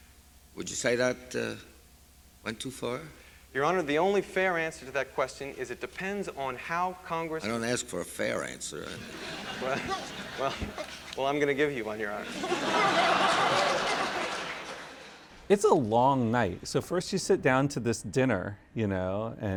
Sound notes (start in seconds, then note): 8.9 laughter